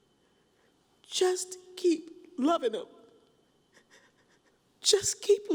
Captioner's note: cries